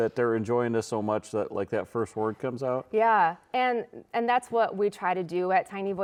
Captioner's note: none